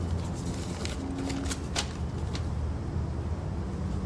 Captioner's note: paper rifling